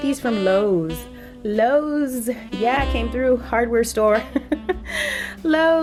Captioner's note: giggles